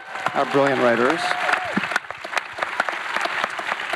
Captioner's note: audience applauds